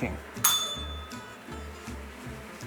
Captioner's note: bell rings